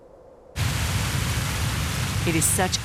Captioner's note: water rushing